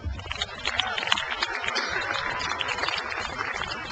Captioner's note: audience applauds